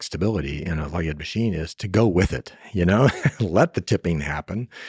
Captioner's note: laughs